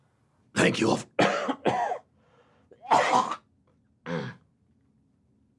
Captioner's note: coughs